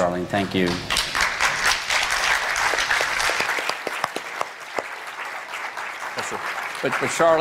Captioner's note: applause